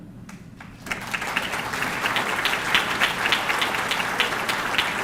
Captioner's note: audience clapping